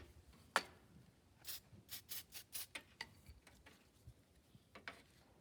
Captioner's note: spray noises; brushing noise